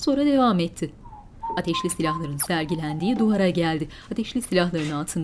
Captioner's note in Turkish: Islık sesi